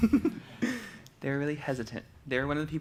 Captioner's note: laughs